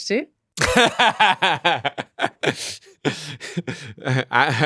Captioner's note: laughs